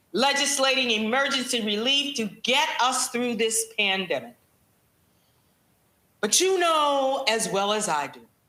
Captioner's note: none